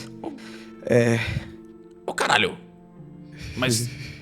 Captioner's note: nervous sigh